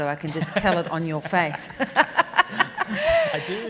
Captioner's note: laughing